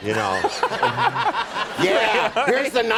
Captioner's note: laughing